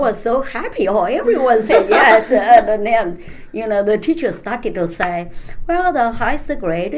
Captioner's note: laughs